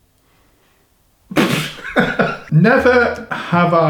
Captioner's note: laughing